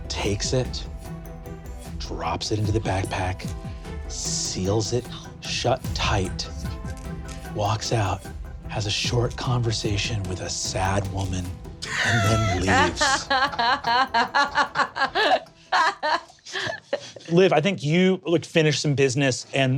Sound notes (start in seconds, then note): 11.8 players laughing